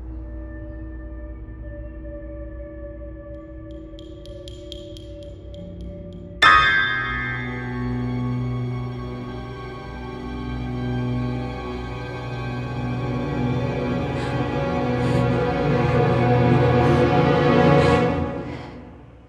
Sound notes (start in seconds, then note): 0.1 ominous music; 6.4 suspenseful music; 15.0 scared breathing